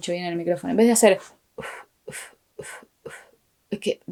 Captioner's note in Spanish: sonido de pequeños golpecitos de aire en la garganta